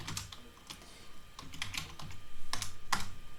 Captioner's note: typing